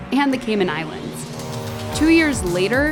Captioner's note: plane engine roars